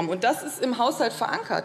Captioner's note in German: none